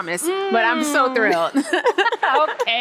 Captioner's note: both laugh